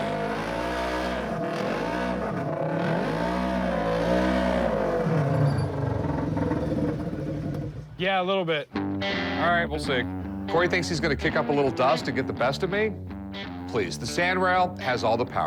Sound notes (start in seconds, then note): none